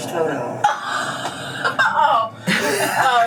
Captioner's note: laughs